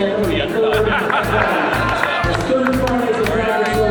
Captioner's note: audience laughs